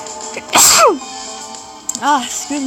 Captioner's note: sneezes